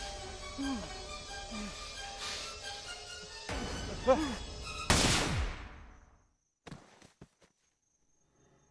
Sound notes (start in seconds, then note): 4.8 gun fires